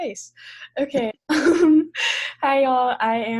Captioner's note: laughs